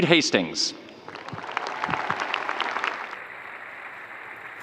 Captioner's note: audience cheering